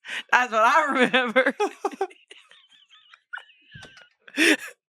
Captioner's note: everyone laughs